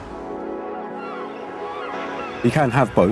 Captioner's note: seagulls squawking